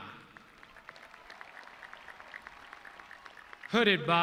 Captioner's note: audience clapping